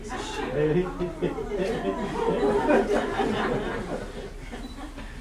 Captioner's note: laughter